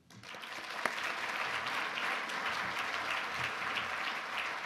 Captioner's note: audience applause